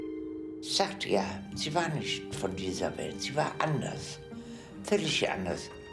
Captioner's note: speaking in foreign language